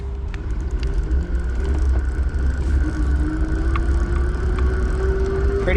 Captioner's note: eBike motor revving